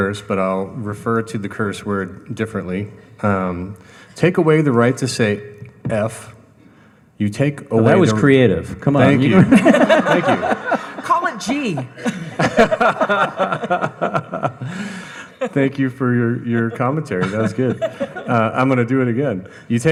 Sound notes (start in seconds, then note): 9.9 audience laughing; 13.3 all laughing